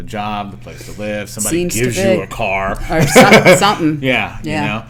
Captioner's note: laughter